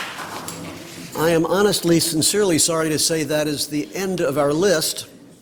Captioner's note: applause